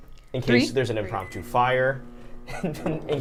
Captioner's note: laughs